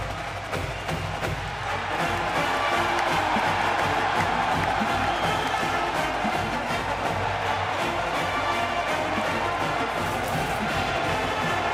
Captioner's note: crowd cheering